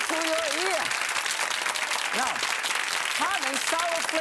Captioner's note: clapping